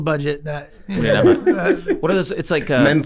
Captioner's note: Rob laughs